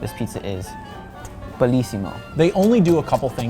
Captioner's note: kisses